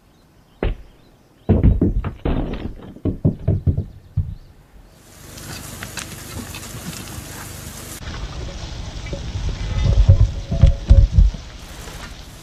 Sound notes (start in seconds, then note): 1.5 crashing noises; 9.3 rock crashing sounds